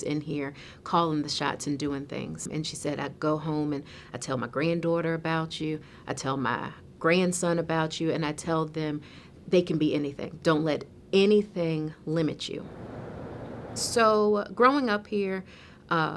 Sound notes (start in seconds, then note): 12.6 winds howling